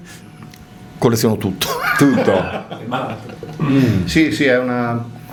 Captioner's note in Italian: risate; schiarire la voce